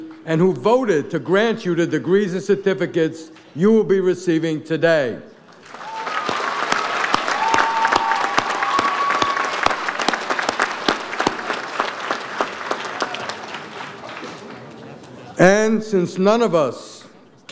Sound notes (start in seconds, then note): 5.7 audience applauds